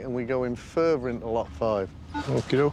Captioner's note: beeping